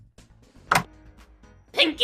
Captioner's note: door opening